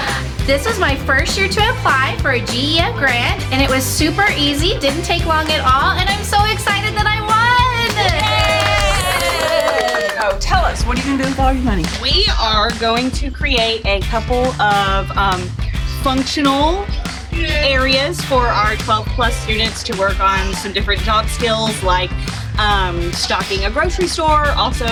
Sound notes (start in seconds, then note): 8.2 group cheering and clapping